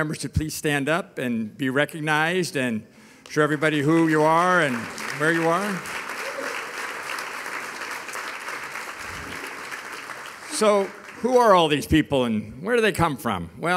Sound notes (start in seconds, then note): 6.9 audience applauding